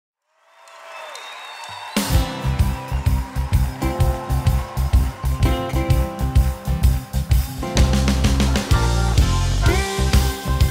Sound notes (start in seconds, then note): 1.2 gritos y aplausos; 1.8 batería, piano